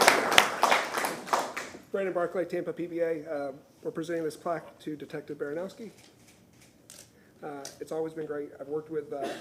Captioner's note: applause